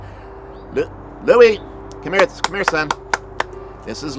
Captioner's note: clapping